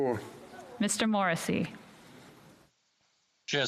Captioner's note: speaking French